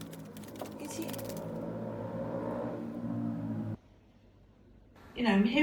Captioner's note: bird sounds; distant vehicle; bird sounds